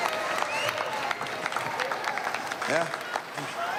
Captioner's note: applause